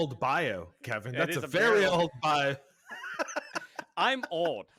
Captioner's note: laughs